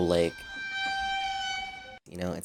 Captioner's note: annoyed sound